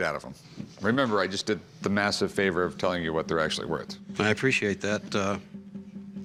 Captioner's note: none